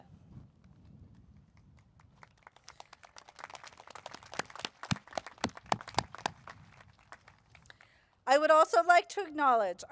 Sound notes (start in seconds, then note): 1.5 applause